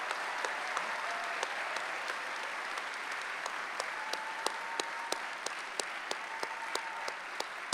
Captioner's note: applause